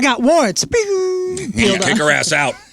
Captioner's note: booing